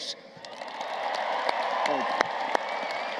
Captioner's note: applause